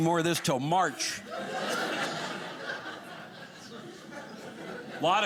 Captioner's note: audience laughing